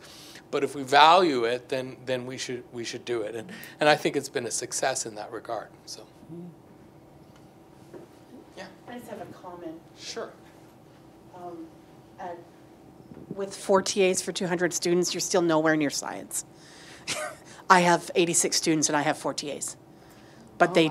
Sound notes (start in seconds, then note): 17.0 laughs